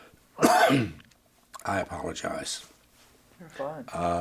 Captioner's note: coughs